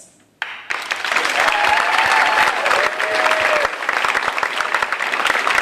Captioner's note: audience applauding, cheering